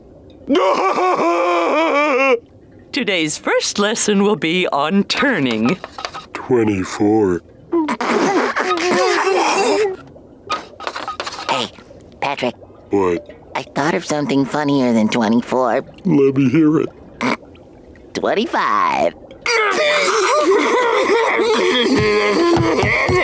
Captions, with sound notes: [laughing] Today's first lesson will be on turning. 24. [giggling] - Hey, Patrick. - What? I thought of something funnier than 24. Let me hear it. [stifled laughing] 25. [laughing]